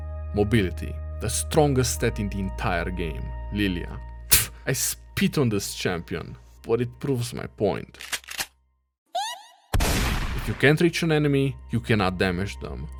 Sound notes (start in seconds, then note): 4.3 spits